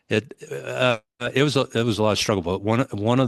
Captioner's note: Welsh